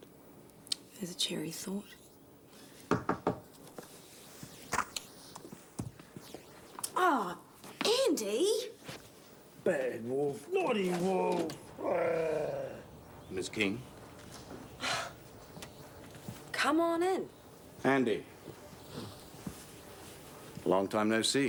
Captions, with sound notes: - There's a cheery thought. (knocking) Oh, Andy! - Bad Wolf, naughty Wolf! (Wolf growls) - Miss Keane. (Jodie sighs) - Come on in. - Andy, long time, no see.